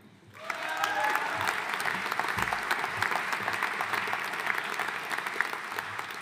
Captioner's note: audience cheering and applauding